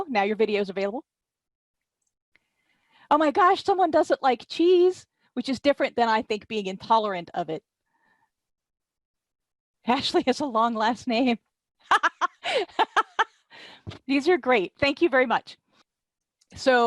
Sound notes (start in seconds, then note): 11.8 laughter